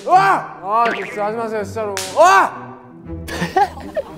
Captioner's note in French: Criant à chaque claquement